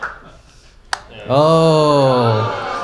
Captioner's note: light switch